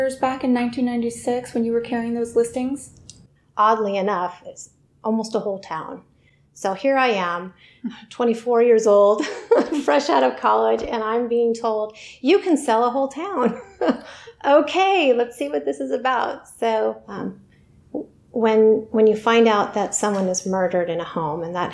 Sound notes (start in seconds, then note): 8.6 laughs